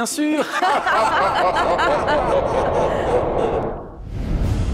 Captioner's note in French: rire